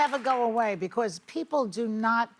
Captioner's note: applause